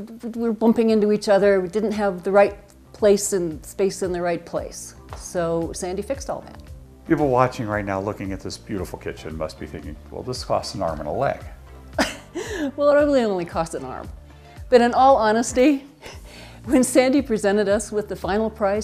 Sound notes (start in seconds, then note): 12.0 laughs